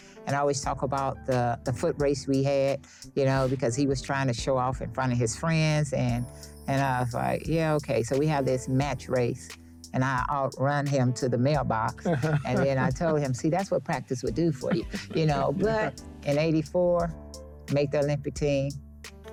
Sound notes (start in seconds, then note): 12.0 laughs